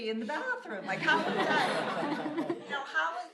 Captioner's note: laughter